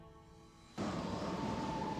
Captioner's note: wind howling